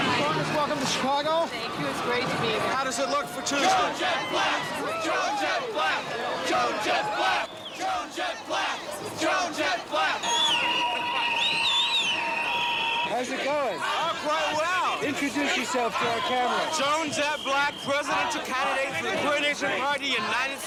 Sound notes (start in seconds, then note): 3.2 people chanting "Joan Jett Blakk"; 8.1 chanting continues; 10.2 whistles blowing